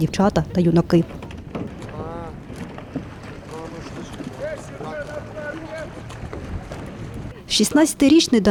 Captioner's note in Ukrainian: плескіт води